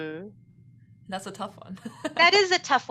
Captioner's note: laughs